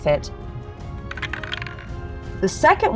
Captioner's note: dice clinks